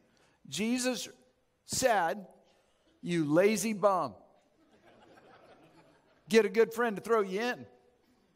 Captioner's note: audience chuckles